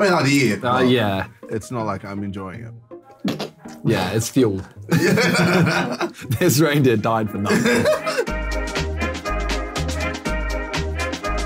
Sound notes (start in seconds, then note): 4.9 all laughing; 7.4 laughing; 8.7 jolly music